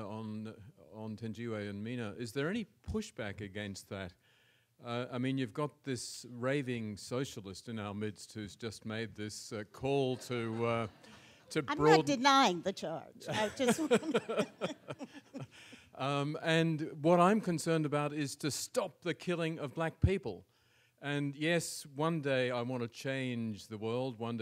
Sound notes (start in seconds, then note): 10.1 audience laughs; 13.3 audience laughs